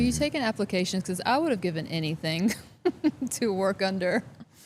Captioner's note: laughs